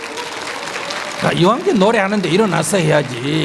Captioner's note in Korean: 청중 박수